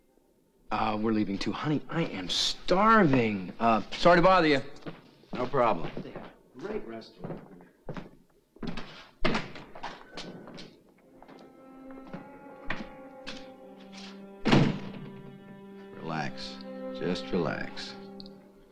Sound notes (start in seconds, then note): 14.4 door slamming